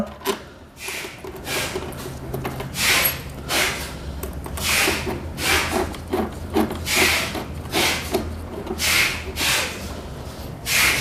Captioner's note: L-shaped key noise; bolts noise